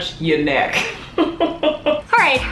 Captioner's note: laughs